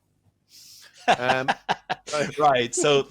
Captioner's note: laughter